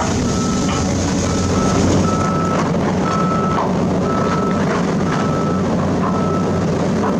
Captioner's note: engine Rev